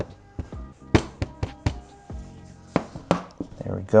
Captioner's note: hammer tapping